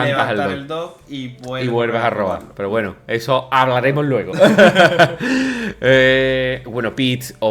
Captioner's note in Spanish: risas